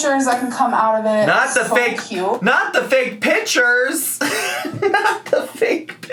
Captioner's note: laughs